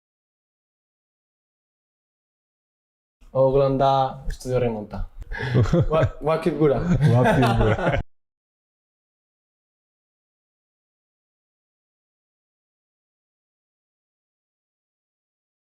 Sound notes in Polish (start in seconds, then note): 6.7 śmiech